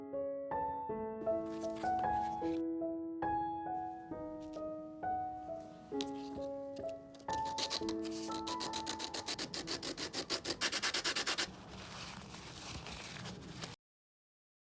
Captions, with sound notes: sand rough edges [raspy sound of sandpaper]